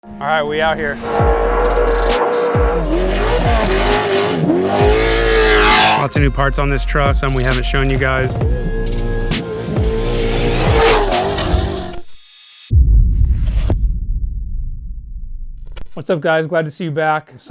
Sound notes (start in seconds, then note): 0.6 car engine revving; 1.4 upbeat music; 7.3 car engine revving; 8.7 upbeat music